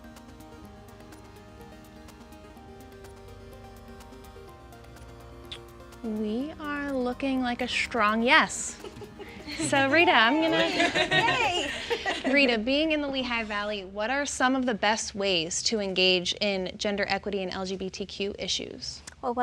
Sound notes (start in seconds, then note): 0.2 mellow instrumental music; 9.5 panelists cheering